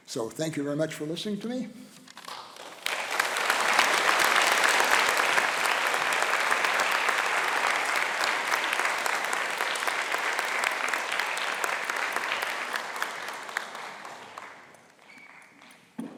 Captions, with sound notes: So, thank you very much for listening to me. (applause)